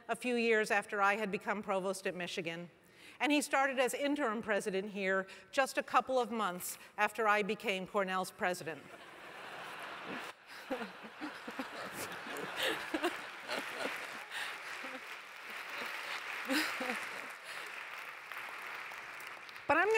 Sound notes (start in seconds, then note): 9.5 laugh; 17.0 applause